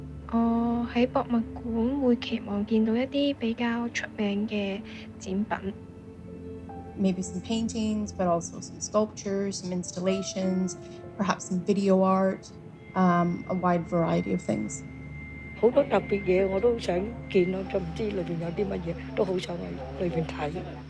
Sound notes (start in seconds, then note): 0.0 Cantonese; 1.4 Cantonese; 16.1 Cantonese